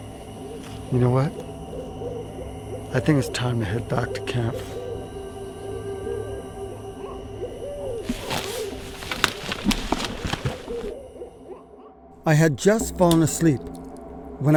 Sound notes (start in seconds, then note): 6.1 insects singing; 6.1 owls hooting; 8.0 crackling ground debris; 8.9 hooting owls